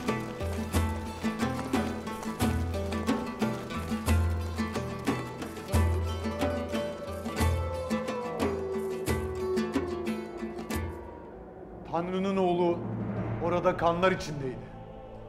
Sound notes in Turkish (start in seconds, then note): 0.1 Müzik devam; 7.2 Kurt uluma sesi